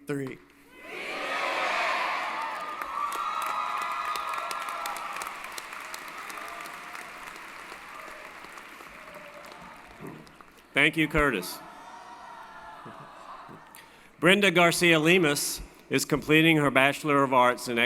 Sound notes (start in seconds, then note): 3.1 applause & Cheering